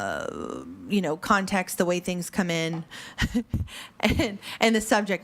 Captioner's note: chuckles